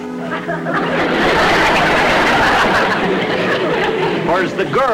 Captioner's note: audience Laughing